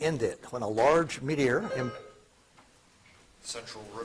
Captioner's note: buzzer chiming